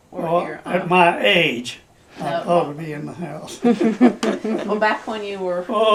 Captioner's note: laughter